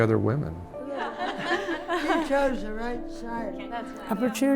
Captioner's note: laughter